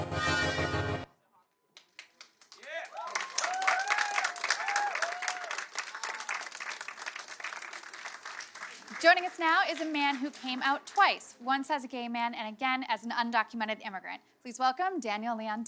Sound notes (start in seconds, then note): 7.5 applause